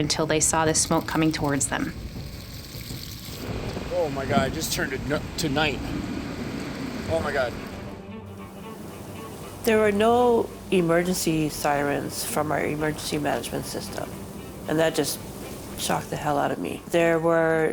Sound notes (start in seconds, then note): 4.5 flames crackling